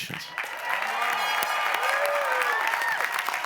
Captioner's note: applause